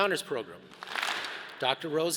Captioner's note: all clap